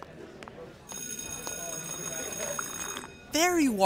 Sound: school bell rings

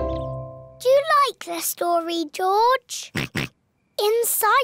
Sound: oinks

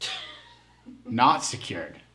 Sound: laughs

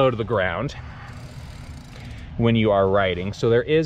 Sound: chain catling

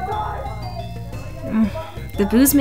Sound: sighs

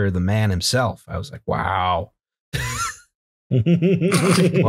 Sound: laughter

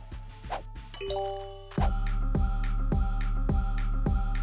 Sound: upbeat music plays; text chimes

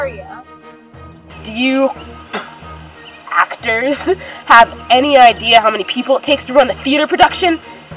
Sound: spits

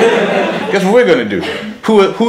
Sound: laughs

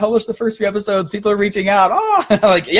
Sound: laughing; screaming

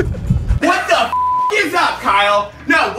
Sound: beep

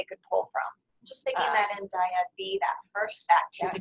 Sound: voiceover

